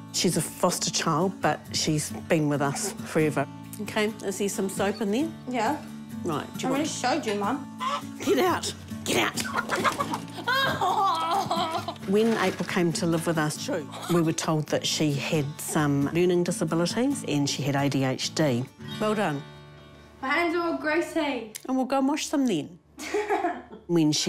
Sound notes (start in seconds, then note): 7.8 chicken clucks; 9.2 laughs; 9.5 chicken gobbles; 23.6 laughs